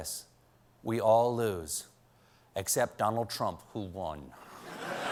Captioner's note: laughter